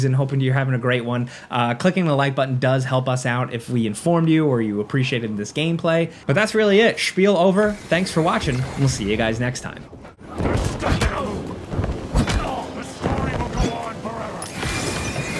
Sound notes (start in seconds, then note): 11.7 blows landing